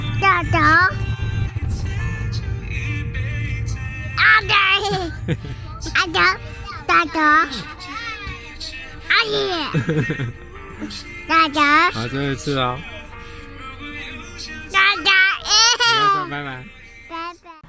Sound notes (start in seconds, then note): 4.8 giggles; 9.1 laughs; 15.4 laughs